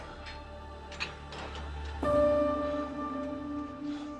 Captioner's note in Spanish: Sonido al abrir puerta